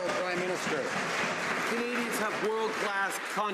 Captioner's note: some Applause